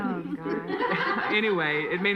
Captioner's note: laughing